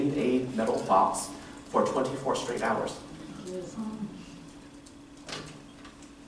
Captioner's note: murmurs